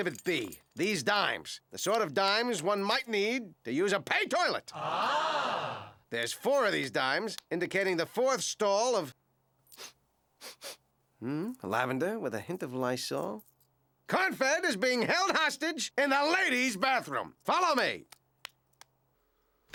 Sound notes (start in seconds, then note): 10.4 sniffing